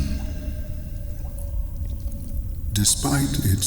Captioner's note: cave noises